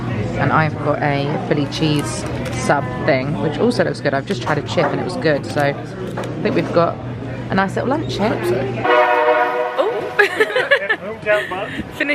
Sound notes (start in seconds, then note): 8.8 train whistle blares; 10.2 laughs